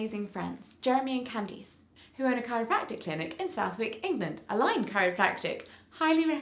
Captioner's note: none